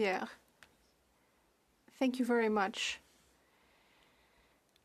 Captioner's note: speaking French